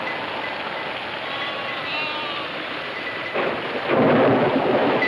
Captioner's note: lambs bleating